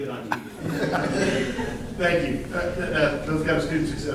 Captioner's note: laughter